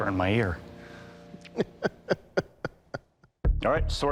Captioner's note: laughs